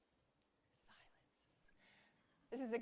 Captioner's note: silence